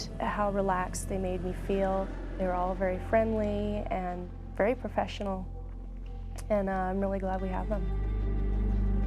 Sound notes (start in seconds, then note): 1.9 voiceover